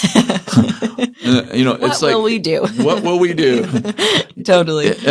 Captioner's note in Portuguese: risos